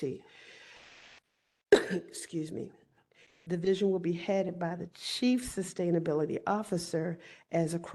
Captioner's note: cough